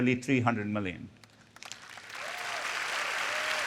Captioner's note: applause